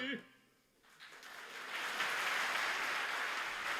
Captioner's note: applause